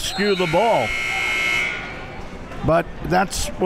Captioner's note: buzzer rings